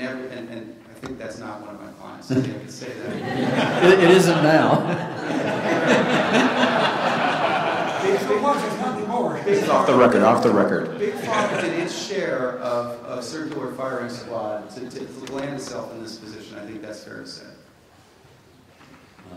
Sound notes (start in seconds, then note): 5.3 laughter